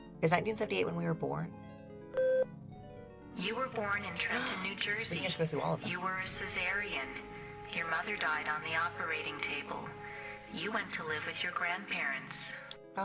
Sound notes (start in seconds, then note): 4.3 gasps